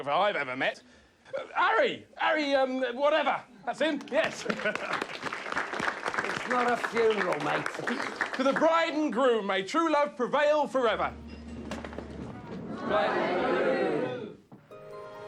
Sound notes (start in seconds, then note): 3.9 people clapping